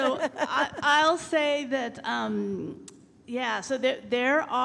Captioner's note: laughing